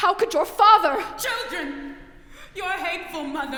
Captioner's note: yelling offstage